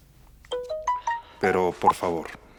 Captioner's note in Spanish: Aviso de mensaje